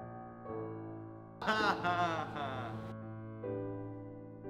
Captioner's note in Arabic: يضحك